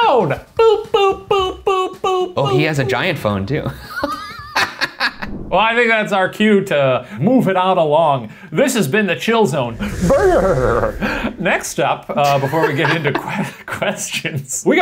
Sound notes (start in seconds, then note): 4.2 laughing; 12.2 laughing